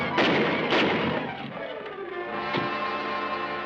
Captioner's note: dramatic instrumental music; gunshots